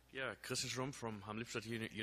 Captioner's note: voiceover